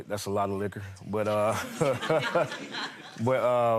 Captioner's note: audience laughing